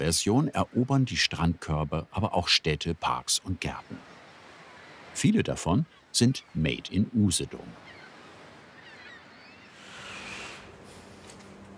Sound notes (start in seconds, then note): 7.7 screeching of seagulls